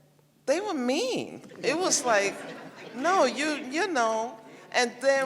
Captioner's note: laughter